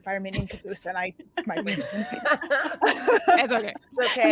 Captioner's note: cast members laughing